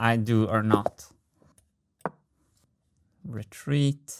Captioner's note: mouse click